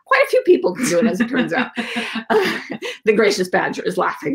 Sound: laughing

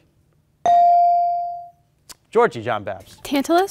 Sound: beep

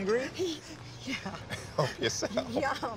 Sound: laughs

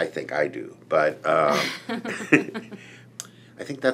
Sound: laughs

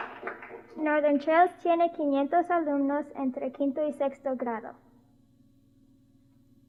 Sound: spoken in Spanish

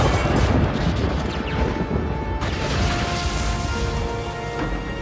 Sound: lightning

